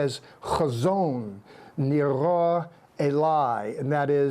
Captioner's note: speaking in Hebrew